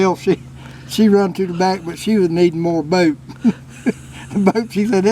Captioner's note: laugh